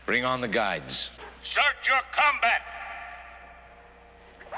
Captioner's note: man Over Speaker